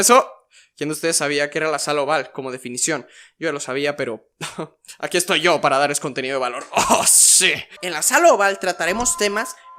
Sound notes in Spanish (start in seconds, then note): 8.5 gemido muy extraño perdon